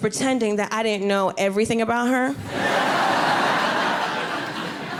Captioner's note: audience laughing